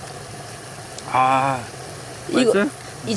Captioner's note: exclamation